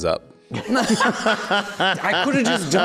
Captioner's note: laughs